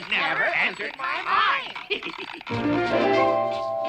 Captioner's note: laughs